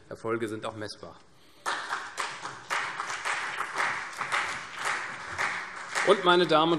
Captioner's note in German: Beifall CDU und BÜNDNIS 90/DIE GRÜNEN